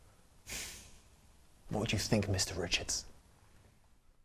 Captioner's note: snorts